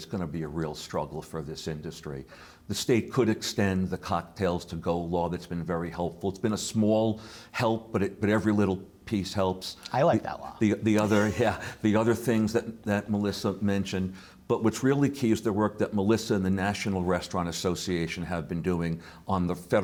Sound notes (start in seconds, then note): 11.0 laughs